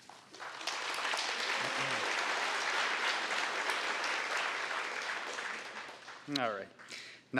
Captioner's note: applause